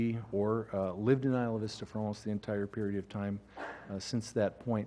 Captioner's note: cough